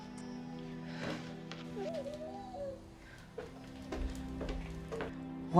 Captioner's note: baby fussing